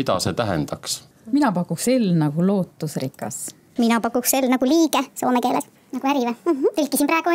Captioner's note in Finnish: keskustelu muuttui puheensorinaksi, lyhyesti